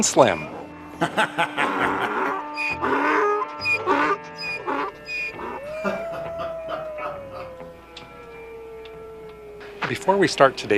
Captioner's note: laughter, burro braying, and wolf howling